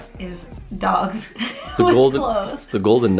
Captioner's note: laughs